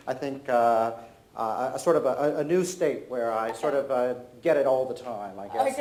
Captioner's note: none